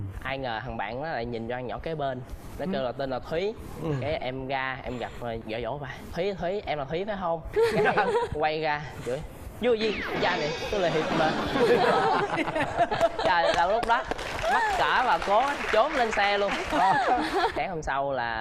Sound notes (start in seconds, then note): 7.5 laughing; 10.9 laughing and applause